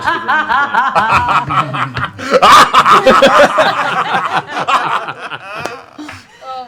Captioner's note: laughter